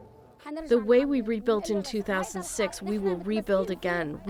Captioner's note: through translator